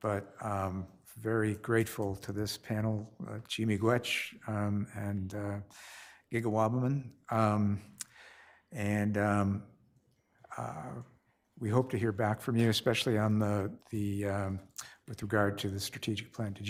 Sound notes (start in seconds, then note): 3.5 speaks foreign language